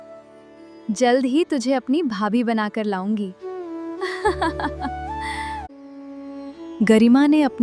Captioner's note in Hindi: हंसी